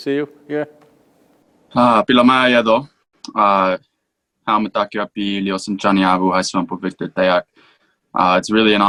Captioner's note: speaks in Native American language – not transcribed